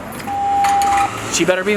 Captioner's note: beeps